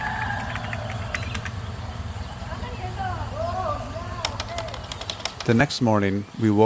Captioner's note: rooster crowing, sounds of village